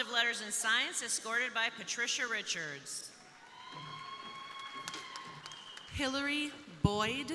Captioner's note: crowd cheering